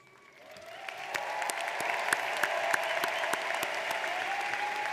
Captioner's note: audience applauds